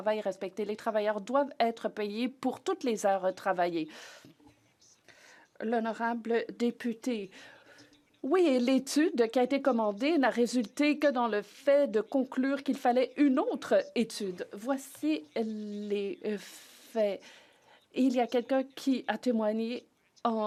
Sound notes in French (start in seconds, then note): 10.5 voix de l'interprète